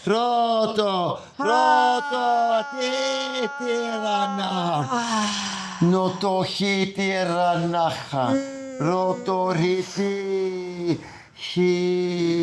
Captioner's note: non-english speech